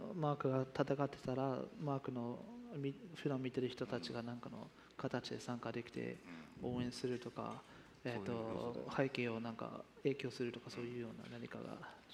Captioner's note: speaking japanese